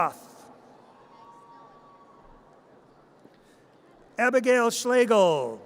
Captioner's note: audience cheers